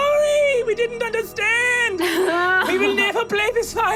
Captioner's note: laughs loudly